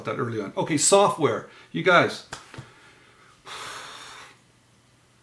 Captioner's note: sighs